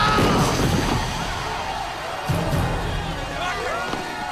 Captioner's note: crowd cheers